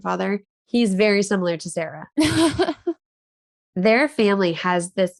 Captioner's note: chuckles